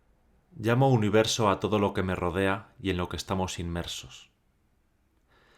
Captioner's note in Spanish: Voz en off